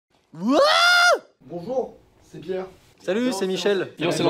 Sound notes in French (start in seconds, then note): 0.3 cri